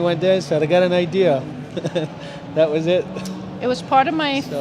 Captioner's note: laughs